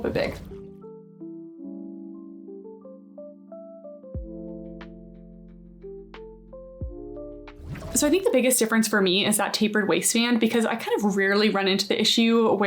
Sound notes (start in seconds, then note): 0.1 smooth music; 0.2 graphic whooshing; 7.6 graphic whooshing